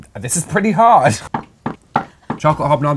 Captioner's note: thud